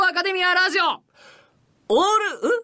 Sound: inhales

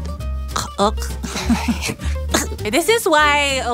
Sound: laughing and choking

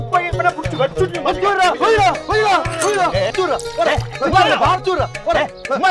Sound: intense brawl

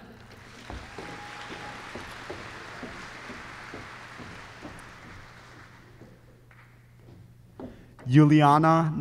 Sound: applause

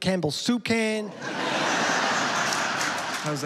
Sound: laughter

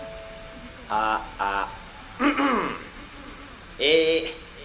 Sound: clears throat

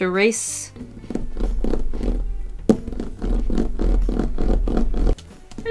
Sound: eraser rolling on the paper

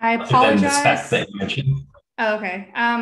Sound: chattering

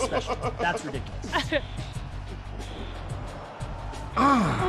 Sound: laugh

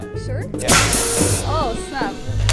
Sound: cannon hissing

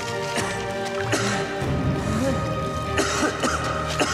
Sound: Liam coughs

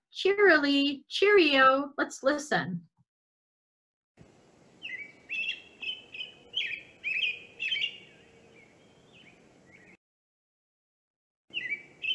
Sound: bird calling

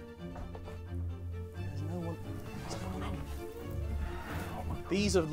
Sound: whispering

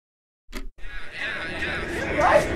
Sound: crowd talking; party music

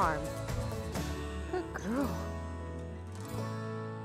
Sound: affectionately to cow

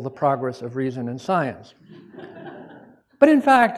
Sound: laughter

